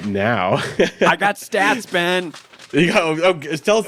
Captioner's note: paper rustling